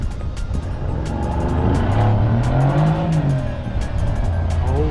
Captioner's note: with an incredible engine sound at the start